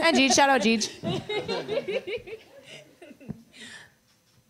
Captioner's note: laughter